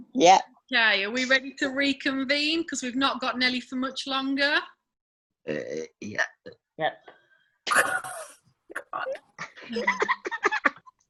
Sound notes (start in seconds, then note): 6.7 laughs